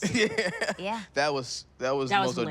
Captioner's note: laughs